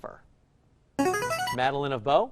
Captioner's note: chiming